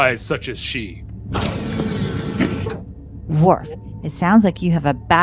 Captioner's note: office doors open